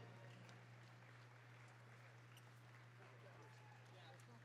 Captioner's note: applause